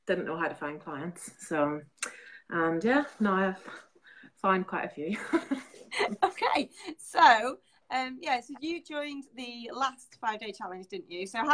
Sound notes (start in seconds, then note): 5.3 laughing